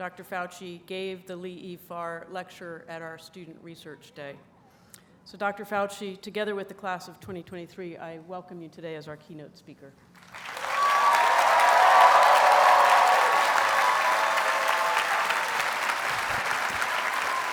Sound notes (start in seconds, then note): 10.2 audience cheers and applauds